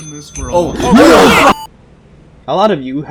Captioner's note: manly Scream